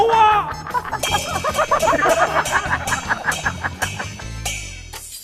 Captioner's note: haha